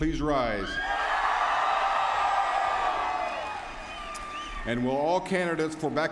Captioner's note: applause